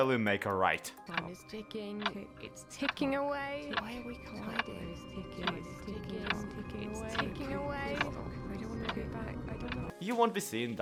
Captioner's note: clock ticking